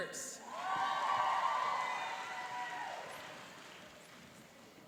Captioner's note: cheering and applauding